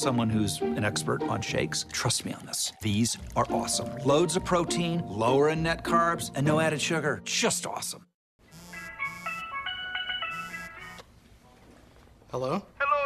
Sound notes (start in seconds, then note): 8.7 steel-drum ringtone sounds